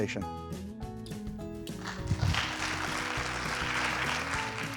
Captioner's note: audience applauding